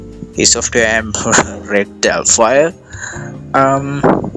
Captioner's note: chuckles